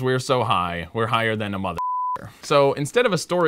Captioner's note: beep